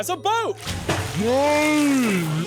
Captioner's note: water splashes